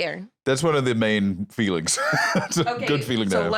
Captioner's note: laughs